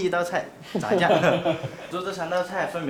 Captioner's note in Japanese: ははは